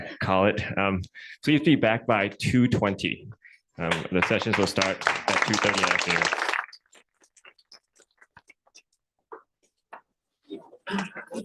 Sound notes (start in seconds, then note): 3.9 applause